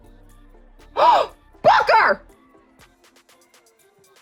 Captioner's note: gasp